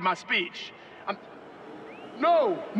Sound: crowd murmurs

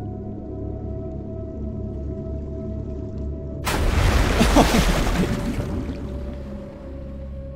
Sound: sound of submarine crashing; chuckles

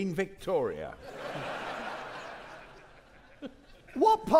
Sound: audience laughing

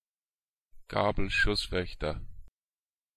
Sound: fast Pronunciation

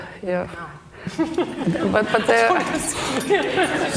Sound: both laughing

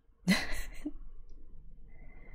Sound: laughs

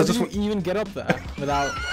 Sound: laughing

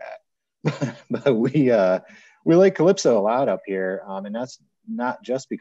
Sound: chuckles

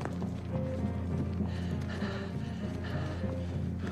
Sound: panting

